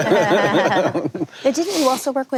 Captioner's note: panel laughs